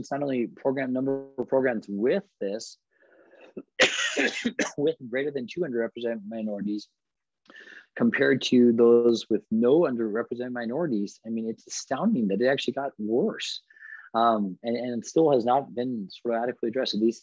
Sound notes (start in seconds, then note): 3.4 coughs